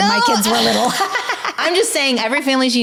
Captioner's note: laughing